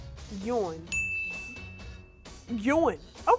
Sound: bell chiming

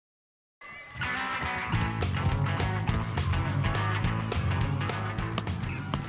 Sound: bicycle bell dinging; 1950s rockabilly music

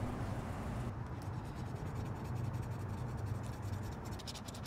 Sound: scratching noises

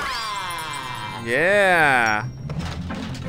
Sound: voiceover

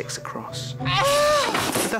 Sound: marge grunts

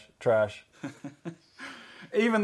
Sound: chuckles

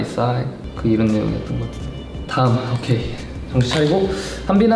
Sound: speaking in Korean

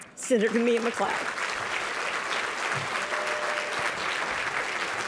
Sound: applause

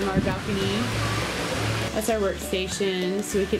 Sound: ocean waves

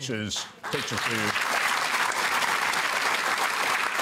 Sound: applause

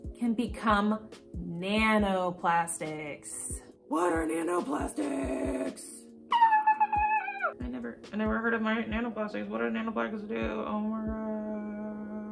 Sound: screams

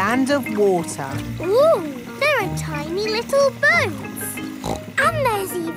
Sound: snorts

